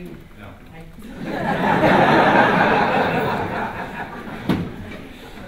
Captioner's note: laughter